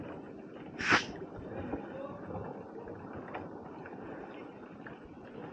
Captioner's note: rustling